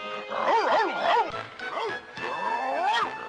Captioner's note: dog barking